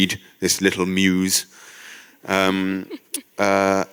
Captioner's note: laughter